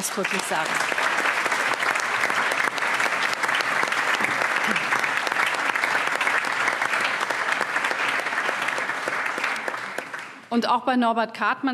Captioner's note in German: Allgemeiner Beifall